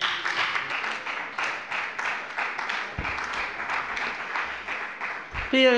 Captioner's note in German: Beifall bei der FDP und bei Abgeordneten der SPD